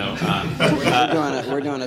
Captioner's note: audience laughter